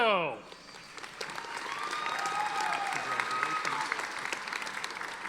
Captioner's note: audience applauding